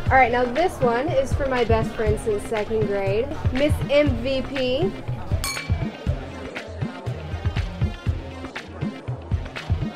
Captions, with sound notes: All right, now this one is for my best friend since second grade, Miss MVP. (clinking)